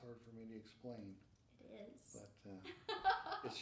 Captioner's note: laughing